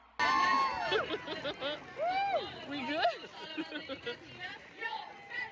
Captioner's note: laugh